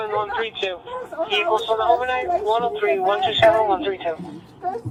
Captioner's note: radio chatter